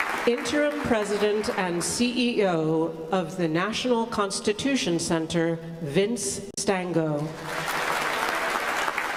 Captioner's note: applause